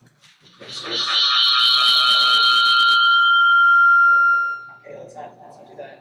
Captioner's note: computer alarm ringing